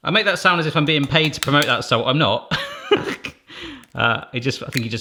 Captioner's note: laughing